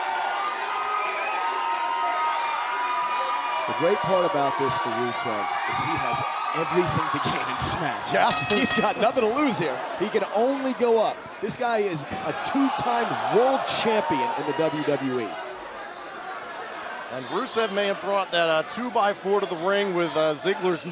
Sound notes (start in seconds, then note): 0.0 crowd cheering; 8.2 bell ringing